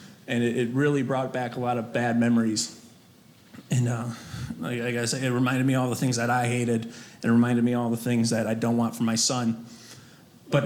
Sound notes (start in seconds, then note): none